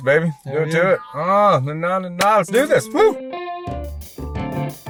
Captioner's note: exclaims; elegant music